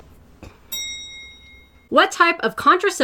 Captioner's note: bell dings